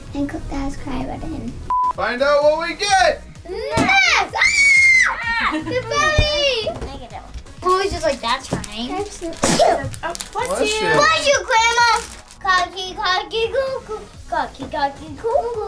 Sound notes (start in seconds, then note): 4.0 screaming; 9.4 sneezing; 12.5 babbling